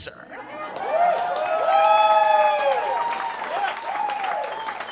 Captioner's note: audience cheering